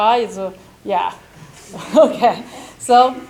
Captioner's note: chuckles